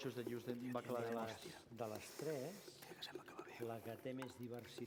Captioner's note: non-english speech